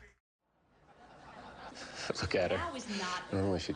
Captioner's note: crowd laughs